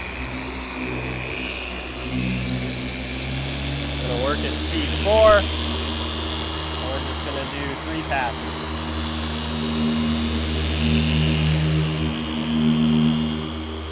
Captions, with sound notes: (polisher speeds up) Gonna work at speed four. And we're just gonna do three passes.